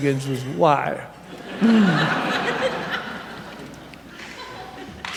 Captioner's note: laughter